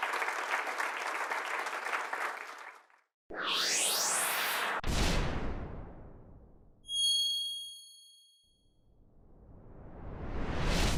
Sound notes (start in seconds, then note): 3.4 electronic sounds